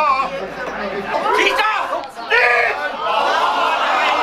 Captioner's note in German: Lauter Trubel